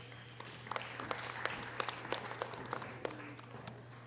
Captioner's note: audience applause